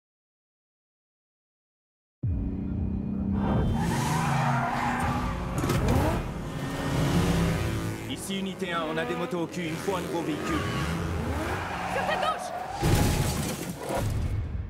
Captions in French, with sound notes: (crissement de pneus) - Ici unitÉ 1. On a des motos au cul. Il faut un nouveau vÉhicule. - Sur ta gauche!